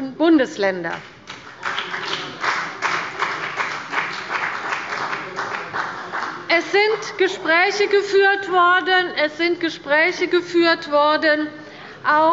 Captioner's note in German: Beifall bei dem BÜNDNIS 90/DIE GRÜNEN und bei Abgeordneten der CDU und der SPD